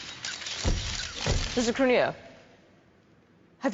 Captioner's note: clicking and mechanical whirring